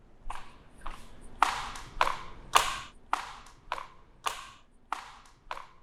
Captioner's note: flippered footsteps